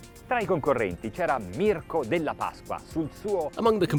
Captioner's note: speaking foreign language